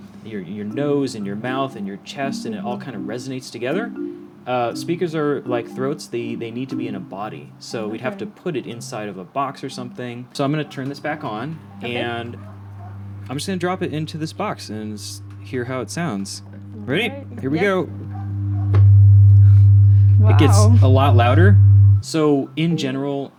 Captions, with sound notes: your nose and your mouth and your chest and it all kind of resonates together? Speakers are like throats, they need to be in a body. So we have to put it inside of a box or something. So I’m going to turn this back on [low hum] and I’m just going to drop it into this box and hear how it sounds. Ready? Here we go. [loud hum] It gets a lot louder! So, in general,